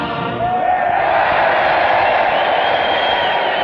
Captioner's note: cheering